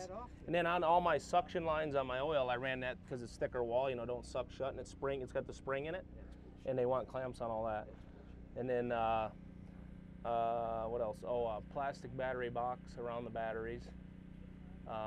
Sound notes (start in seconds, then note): none